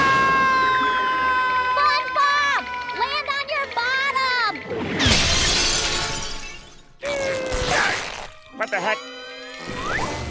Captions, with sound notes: [screaming] SpongeBob, land on your bottom! [shattering] [grunting] What the heck?